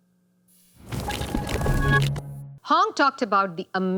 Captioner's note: transition sound effect